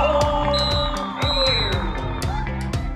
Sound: whistle blowing

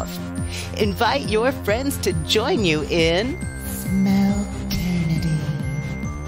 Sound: whisper

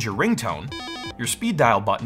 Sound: phone ringing

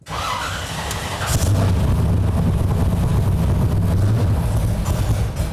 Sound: loud engine roar

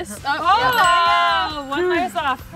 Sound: ding

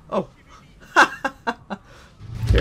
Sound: laughter

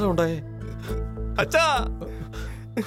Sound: sobbing

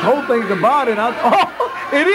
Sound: laughs

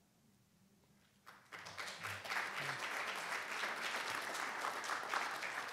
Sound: congregation applauding

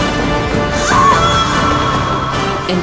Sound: woman screams

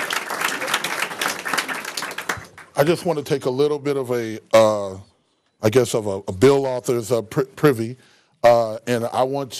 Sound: applause

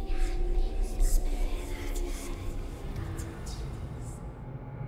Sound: eerie whispering

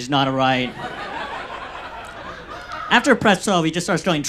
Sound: audience laughs

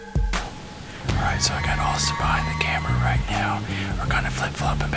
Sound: whispering

